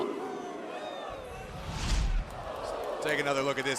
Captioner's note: crowd cheering